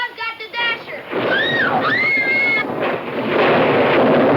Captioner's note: thunder claps